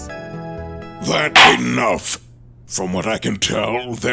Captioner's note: gavel slams!